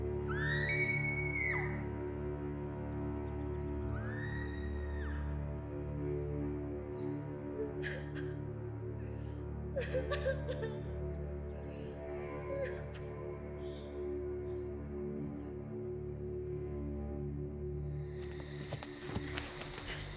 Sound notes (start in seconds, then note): 0.2 salith's screams; 8.0 salith's cries